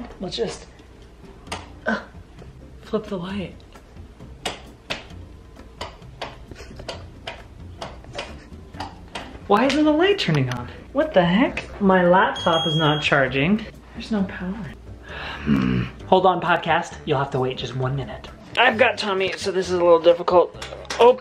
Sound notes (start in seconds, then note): 4.5 clicking; 15.4 growls